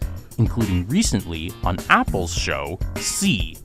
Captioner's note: none